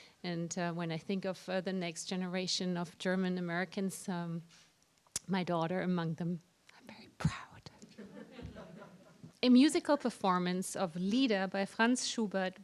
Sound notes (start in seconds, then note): 7.8 laughter